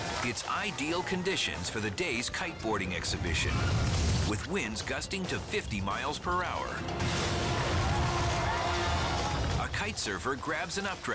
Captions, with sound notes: It's ideal conditions for the day's kite boarding exhibition with winds gusting to 50 miles per hour. (crowd cheering) A kite surfer grabs an updraft